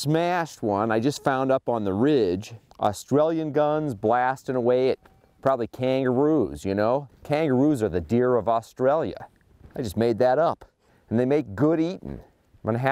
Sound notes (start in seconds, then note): none